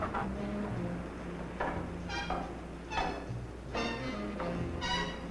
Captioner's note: metal door clanking nearby; footsteps tapping on stairs; jazzy dramatic music